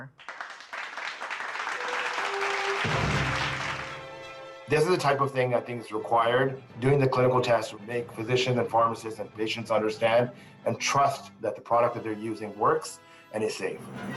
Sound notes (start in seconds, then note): 3.1 audience applauds